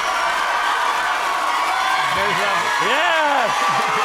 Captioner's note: cheers and applause